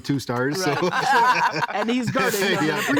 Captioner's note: all laughing